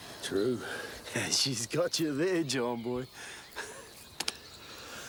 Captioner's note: laughs